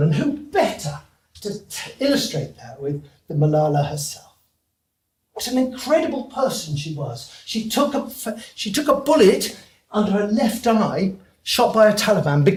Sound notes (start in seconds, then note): none